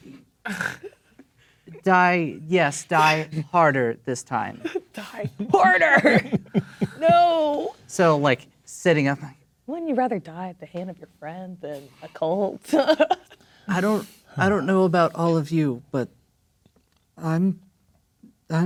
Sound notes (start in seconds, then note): 0.1 laughs; 4.6 chuckling; 12.6 laughing